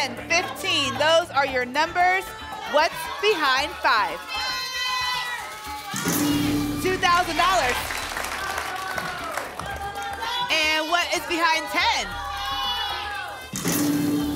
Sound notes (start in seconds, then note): 4.4 cheering; 7.1 applause